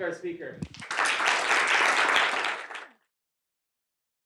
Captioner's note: applause